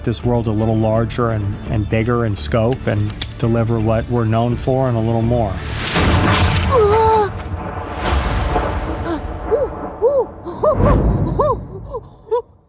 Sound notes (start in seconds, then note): 5.8 gunshot; 6.6 groans; 8.8 gasps, whoops